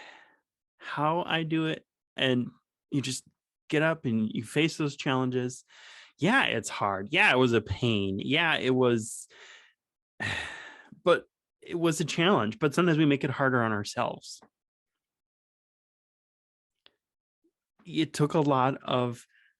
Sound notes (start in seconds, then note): 10.2 sigh